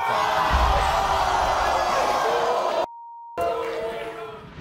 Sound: audience boos

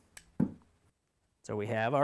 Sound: thud

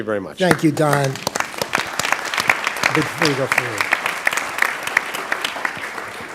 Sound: applause

